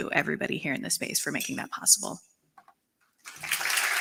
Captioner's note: applause